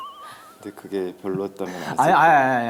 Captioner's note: sighing